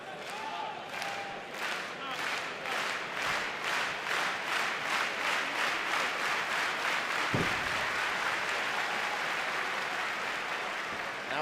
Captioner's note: clapping